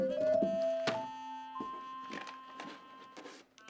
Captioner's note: basket thuds; photos rustling